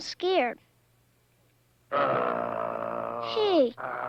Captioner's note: Arrow growls